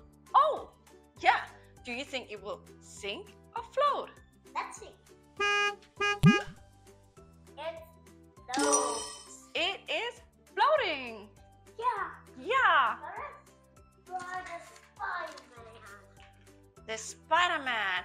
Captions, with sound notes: oh yeah do you think it will sink or float? let's see [Car honks] It floats! It is floating! yeah yeah Let's try Spiderman